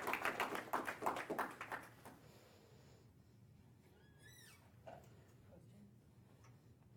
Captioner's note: applause